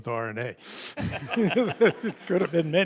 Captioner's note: both laugh